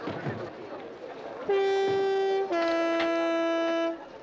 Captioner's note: train whistling